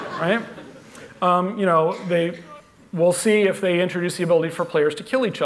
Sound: laughter

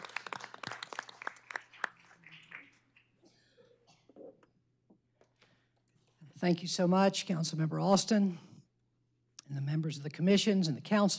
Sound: applause

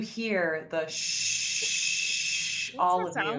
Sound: whistling

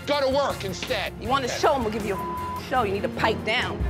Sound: beep

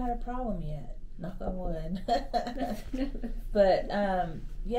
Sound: laughs

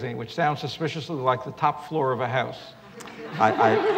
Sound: laughter

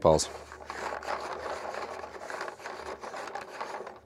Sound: handle cranking

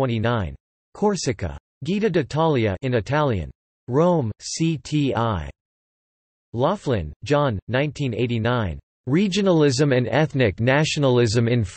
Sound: in Italian

